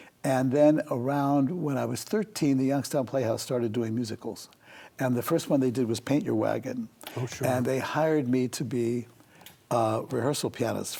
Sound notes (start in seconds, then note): none